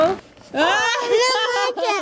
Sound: laughing

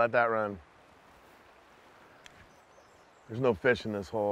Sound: water flowing

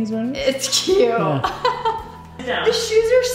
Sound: laughs

